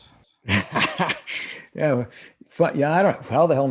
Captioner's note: laughs